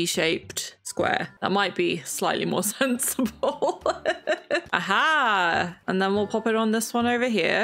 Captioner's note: laughs